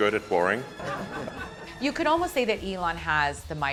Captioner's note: audience laughing